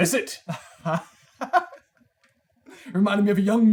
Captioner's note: laughter